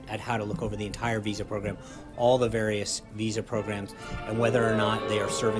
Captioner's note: boo track